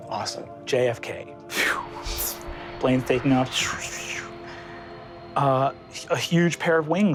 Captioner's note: mimics air whooshing